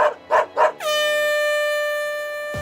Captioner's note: dog barks; air horn blares